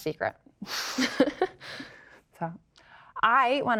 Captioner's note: both laugh